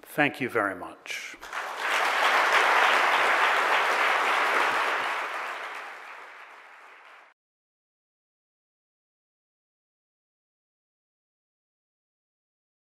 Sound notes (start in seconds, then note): 1.3 audience claps